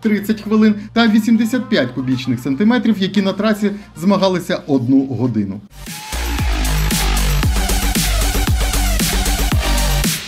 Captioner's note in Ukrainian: оплески